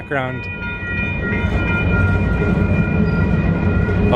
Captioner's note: bell